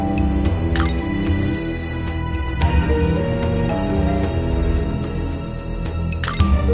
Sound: system Mechanical Sound

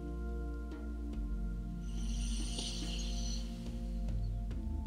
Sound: inhaling

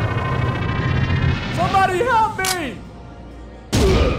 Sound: loads gun and shoot

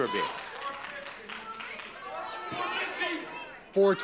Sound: audience murmuring

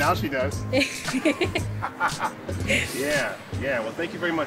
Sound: laughs

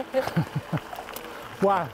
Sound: laughter

